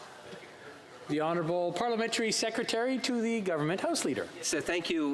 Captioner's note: speaking French